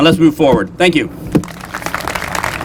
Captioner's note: applause